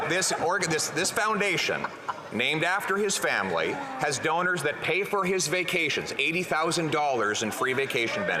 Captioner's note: laughter